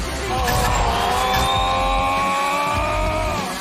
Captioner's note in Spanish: grita